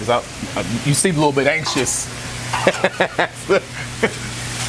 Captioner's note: laughs